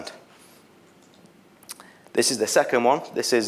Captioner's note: mouse clicks